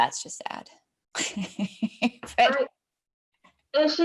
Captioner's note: laughing